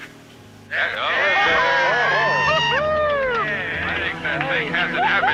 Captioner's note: clapping and cheering